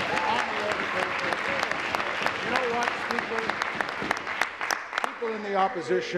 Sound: applause

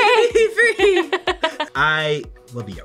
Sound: both laugh

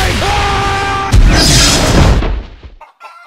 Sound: yelling; boom; clucking

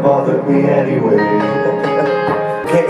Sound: laughing

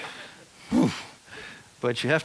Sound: sighs heavily

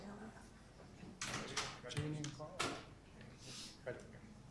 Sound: group chatter

